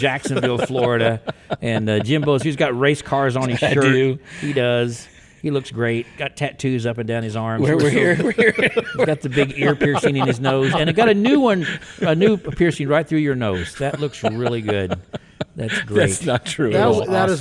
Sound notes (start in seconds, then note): 3.3 laughs; 10.0 both laugh